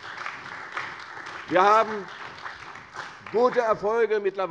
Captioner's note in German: Beifall bei der CDU und dem BÜNDNIS 90/DIE GRÜNEN